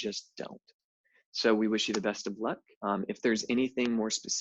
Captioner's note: claps hands